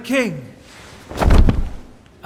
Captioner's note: thud